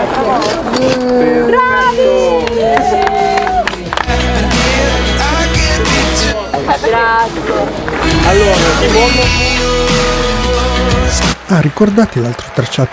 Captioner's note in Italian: applauso